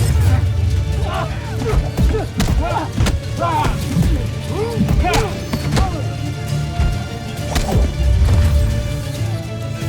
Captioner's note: growling & grunting; weapons clanging & swishing; grunting & growling; thumping & thudding; music swells